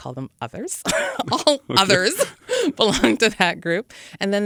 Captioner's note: laughs